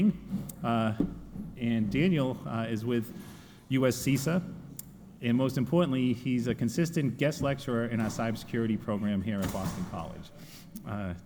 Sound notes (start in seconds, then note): none